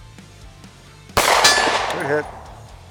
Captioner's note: gunshot fired